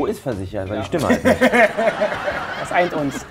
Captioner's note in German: Lachen